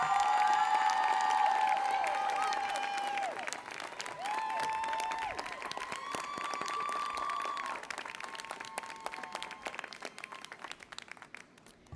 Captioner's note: applause